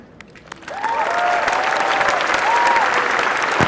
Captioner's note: applause